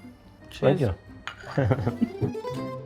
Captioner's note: laughs; romantic music